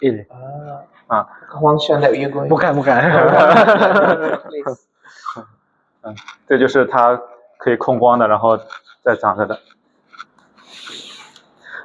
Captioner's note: laughs